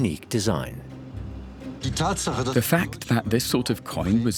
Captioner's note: speaking German